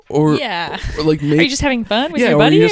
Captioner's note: chuckles